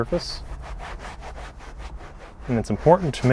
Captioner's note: towel rubbing